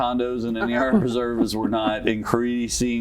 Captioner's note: laughter